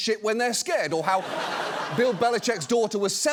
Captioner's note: audience laughs